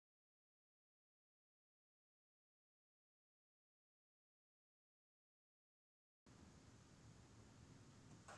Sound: silence

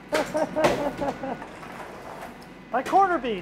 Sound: laughing

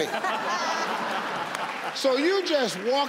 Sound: audience laugh

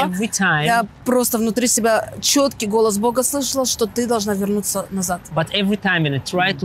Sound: speaking in foreign language

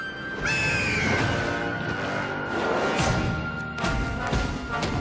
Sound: squawking

